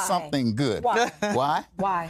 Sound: laughter

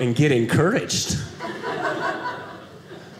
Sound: audience laughing

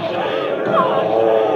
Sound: echoing

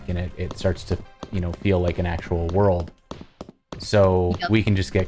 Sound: footsteps

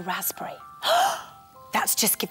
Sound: gasp!

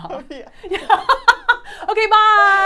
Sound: laughing

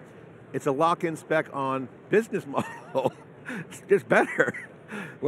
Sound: laughs

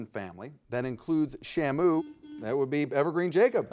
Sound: buzzer beeping

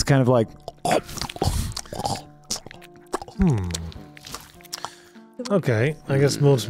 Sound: RIP Headphone Users for Nibbling ASMR

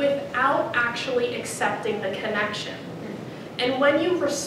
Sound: none

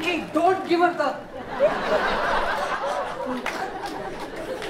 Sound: audience laughs

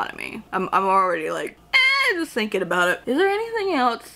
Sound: shrieks

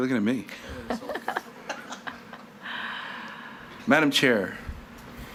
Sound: all laughing

